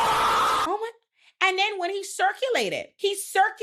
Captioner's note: screaming